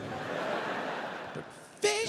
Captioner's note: audience laughs